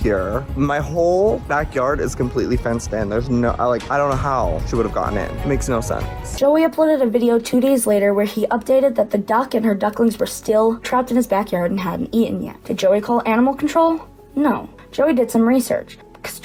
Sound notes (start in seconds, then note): none